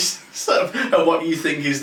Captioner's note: laughing